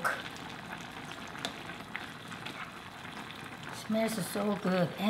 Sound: dish simmering

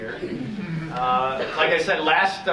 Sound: audience chuckling

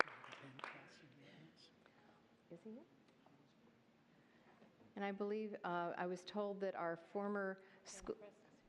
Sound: applause

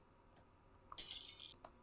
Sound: lightbulb shatters

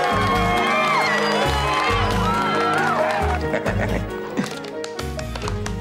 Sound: all Cheering; laughing

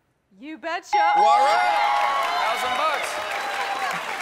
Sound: ding!

